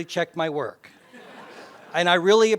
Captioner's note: laugh